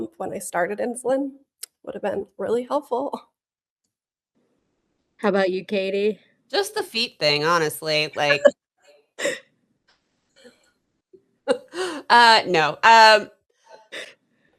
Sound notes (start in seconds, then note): 8.6 laughter